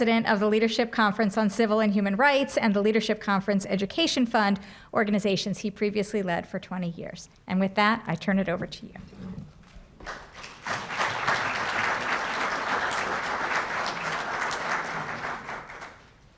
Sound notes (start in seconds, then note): 10.0 applause